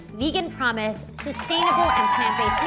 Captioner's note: cheering